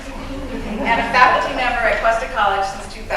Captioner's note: laughter